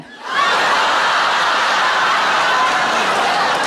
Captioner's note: laughing